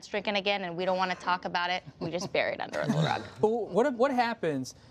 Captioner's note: laughter